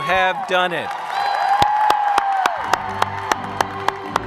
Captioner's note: audience cheers and applauds